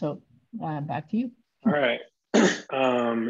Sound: coughs

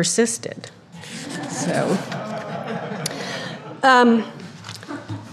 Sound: audience laughing

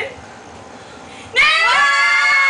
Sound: shouting

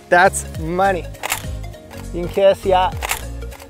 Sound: click; click

